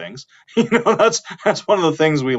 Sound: laughing

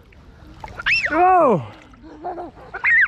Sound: screams; chuckles

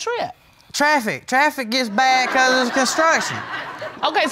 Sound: audience laughing

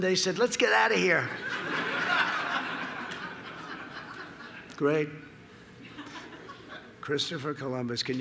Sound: laughter

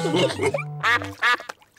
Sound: all laugh; ducks quack

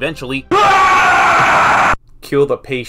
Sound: The late Mr. Jones screams in his deathbed

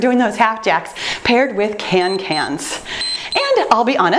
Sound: timer beeps

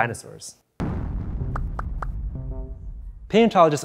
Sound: boom

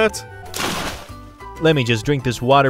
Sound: splashing

